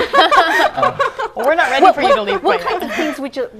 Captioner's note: laughter; laughing